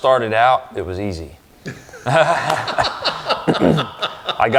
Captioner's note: both laugh